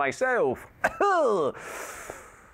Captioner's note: nervous sound